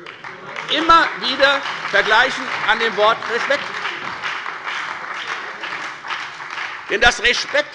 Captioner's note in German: Beifall bei der FDP, der SPD und der LINKEN